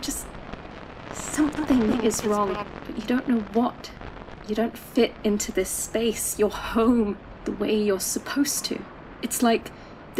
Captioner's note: echoing, staticky